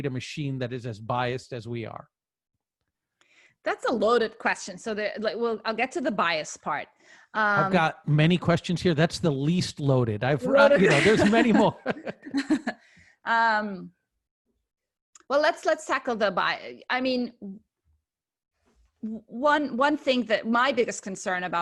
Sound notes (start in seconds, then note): 13.5 laughter